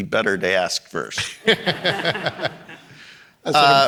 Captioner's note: audience laughing